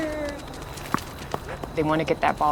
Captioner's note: dogs footsteps